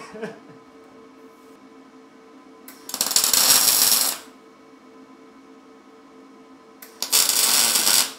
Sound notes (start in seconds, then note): 2.9 tool crackles